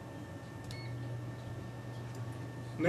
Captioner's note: microwave oven beeps